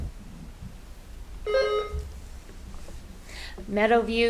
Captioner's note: buzzer ringing